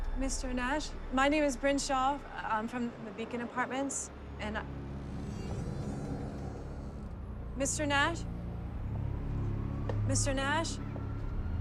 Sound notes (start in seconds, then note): 4.1 eerie music; 5.3 door creaks